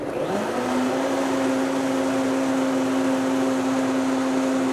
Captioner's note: blender whirs